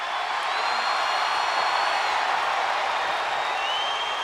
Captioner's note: crowd cheers